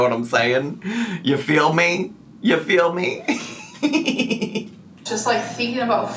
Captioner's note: laughs